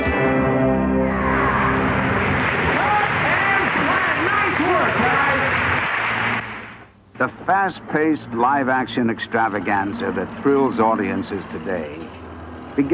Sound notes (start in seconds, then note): 1.6 crowd cheering